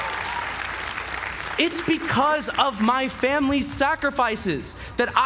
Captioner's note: applause